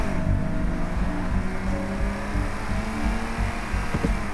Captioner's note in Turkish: Araba sesi